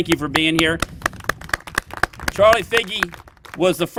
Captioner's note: applause